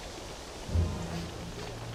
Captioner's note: sniffing